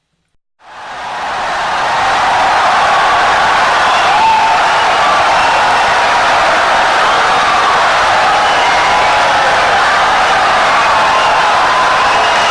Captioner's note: wild applause and cheering for 17 seconds